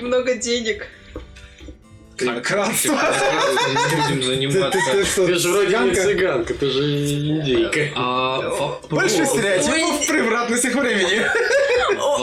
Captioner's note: laughs